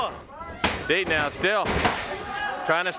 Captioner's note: body thudding